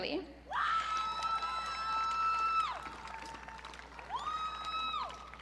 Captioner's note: audience cheering